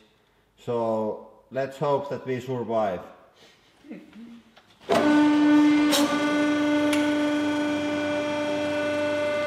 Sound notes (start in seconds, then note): 3.8 scared chuckling